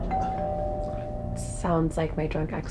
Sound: doorbell rings

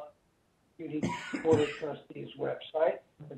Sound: coughs

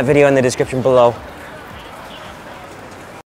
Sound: crowd chattering

